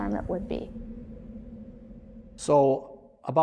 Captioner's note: wind howls